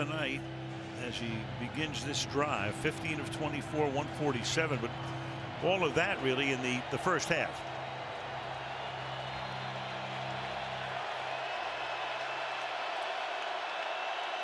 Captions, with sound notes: Brissett, tonight, as he begins this drive, 15 of 24, 147. But all of that really in the first half. [crowd cheering]